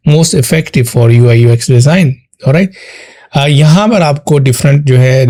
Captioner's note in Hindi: नाक से की जाने वाली आवाज़